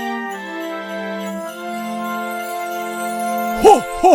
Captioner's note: jingle bells ringing